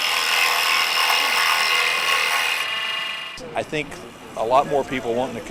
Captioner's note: machine Noise